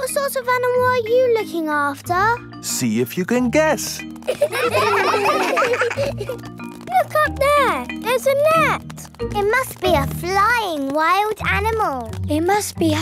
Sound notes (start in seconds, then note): 4.2 children laughing